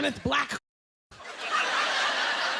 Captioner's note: laughter